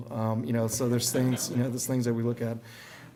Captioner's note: audience laughing